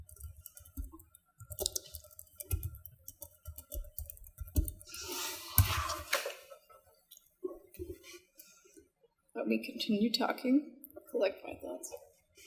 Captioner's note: typing noises